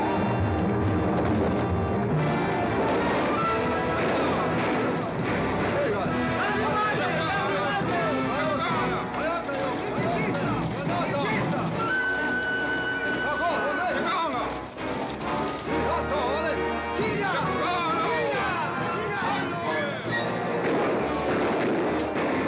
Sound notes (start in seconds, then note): 0.1 dramatic music; 6.5 yelling in Comanche; 20.5 gunshots